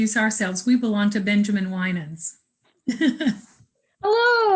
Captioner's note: laughing